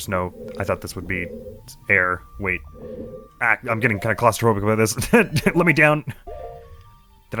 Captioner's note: laughs